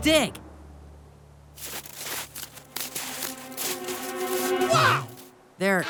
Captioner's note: snow whishing